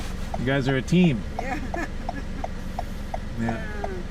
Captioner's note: laughs